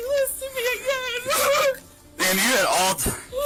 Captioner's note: cries